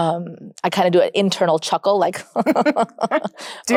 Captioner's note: chuckles